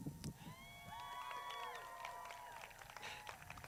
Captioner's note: crowd cheers